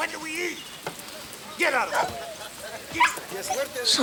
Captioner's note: dogs bark